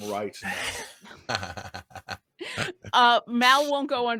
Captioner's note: laughing